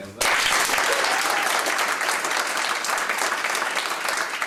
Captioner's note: audience applauding